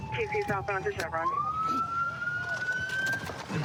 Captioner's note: sirens